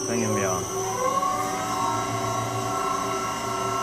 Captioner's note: whirring gets louder